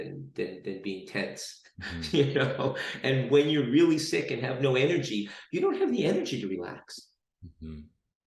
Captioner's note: laughs